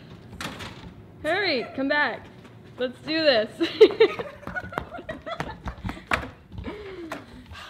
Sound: laughs

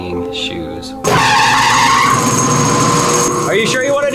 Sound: machinery whirring

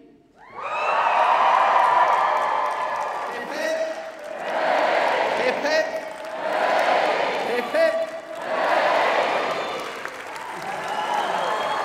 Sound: applaue and cheering

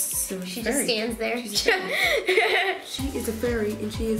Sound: laughing

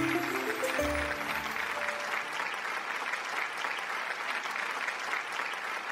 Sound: audience clapping

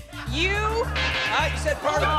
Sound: buzzer

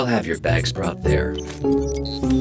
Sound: robot sounds

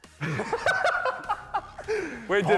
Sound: laughs

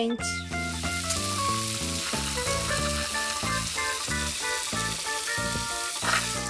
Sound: sound of running water

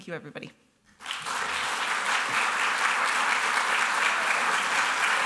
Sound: applause

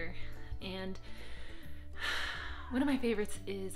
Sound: sighing

